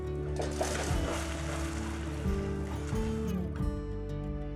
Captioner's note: splashing